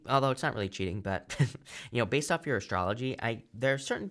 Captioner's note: chuckles